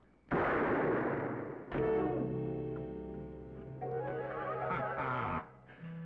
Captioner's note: gun firing; dramatic music